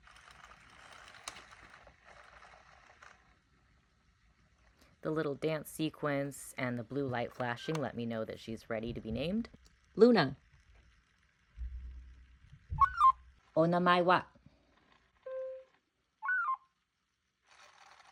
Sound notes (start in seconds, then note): 0.0 gear noises; 12.7 robot repeats name back in garbled voice; 15.7 robot says Luna in garbled voice; 16.2 robot beeps